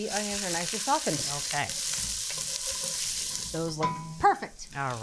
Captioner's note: oil sizzling